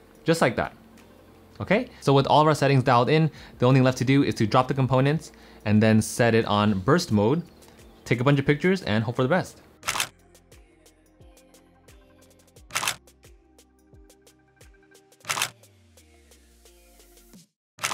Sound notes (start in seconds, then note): 9.9 camera shutter clicks; 12.7 shutter click